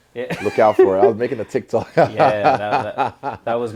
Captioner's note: laugh